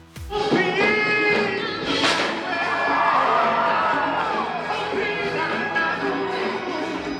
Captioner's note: upbeat music; crowd cheers